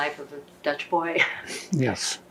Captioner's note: laughing